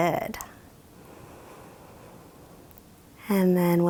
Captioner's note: inhales deeply